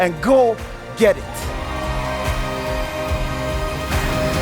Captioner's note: crowd cheers